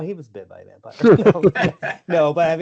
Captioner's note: laughter